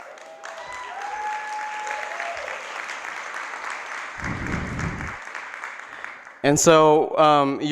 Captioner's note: applause